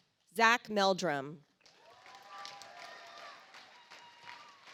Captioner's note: audience applauds